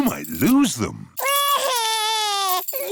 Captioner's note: crying